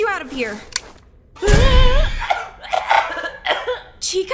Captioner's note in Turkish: öksürük